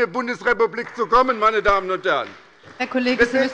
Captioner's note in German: Beifall bei der SPD